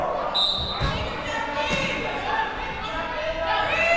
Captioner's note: whistle blowing